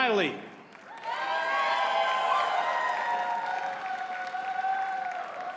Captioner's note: audience cheers and applauds